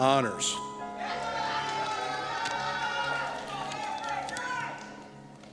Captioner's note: cheers